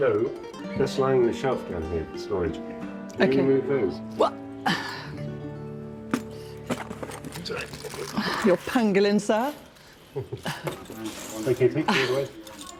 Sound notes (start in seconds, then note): 4.3 exclaiming; 10.1 chuckling